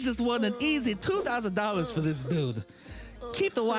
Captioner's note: moaning